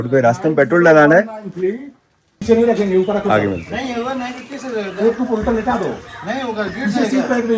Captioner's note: chatter